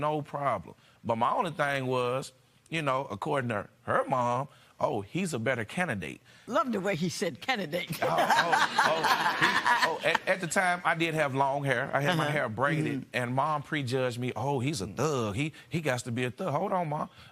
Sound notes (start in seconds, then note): 8.0 laughter